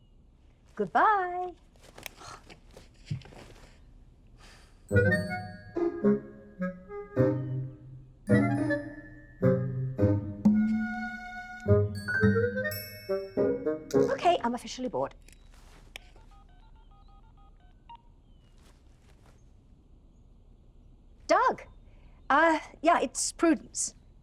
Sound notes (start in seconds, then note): 1.6 scoffs; 5.2 light bouncy music; 15.9 phone dialing